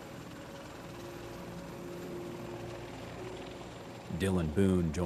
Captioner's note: helicopter whirring